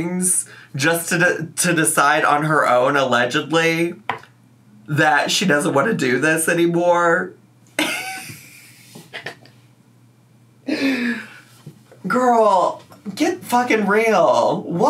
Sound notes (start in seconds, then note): 8.5 laughs